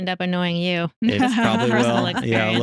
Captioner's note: laughing